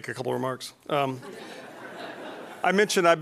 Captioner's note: laughing